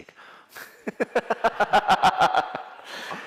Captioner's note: laughter